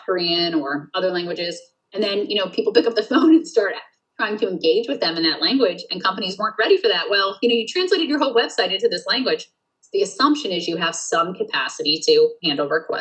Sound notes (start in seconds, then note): 2.4 laughs